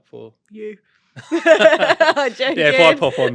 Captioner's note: laughter